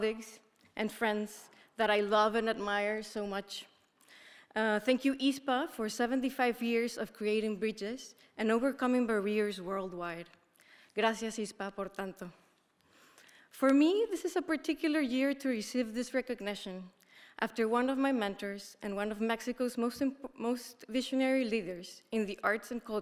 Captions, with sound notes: and friends that I love and admire so much. Thank you ISPA for 75 years of creating bridges and overcoming barriers worldwide. (speaker speaking in a foreign language) For me, this is a particular year to receive this recognition after one of my mentors and one of Mexico's most visionary leaders in the arts